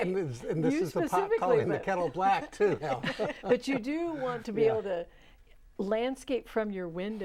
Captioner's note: laughing